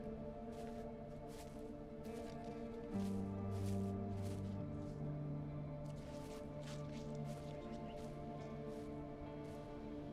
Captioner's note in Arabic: خطوات بطيئة